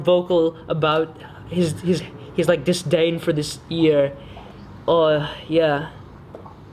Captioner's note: sighs